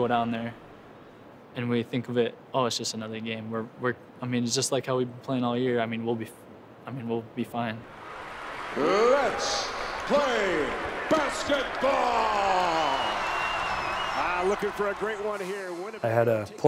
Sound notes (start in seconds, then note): 14.7 announcer broadcasts; 14.7 cheering